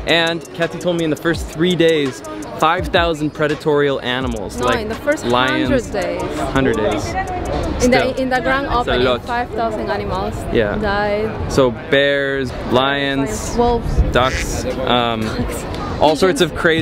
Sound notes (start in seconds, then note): 14.2 duck qucks; 14.2 laughs